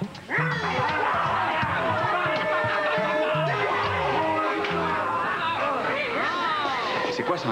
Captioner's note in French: Grognements et cris